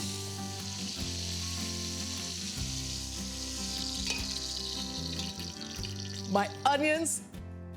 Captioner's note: meat sizzling